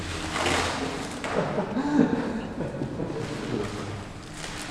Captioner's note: chuckling